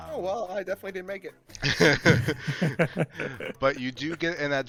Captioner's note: laugh